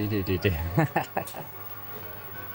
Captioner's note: laughter